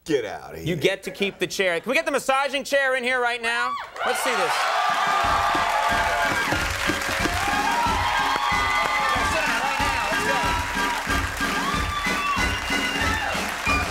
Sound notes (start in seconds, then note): 5.1 audience cheering; 8.4 upbeat music